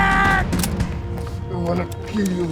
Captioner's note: gun clicking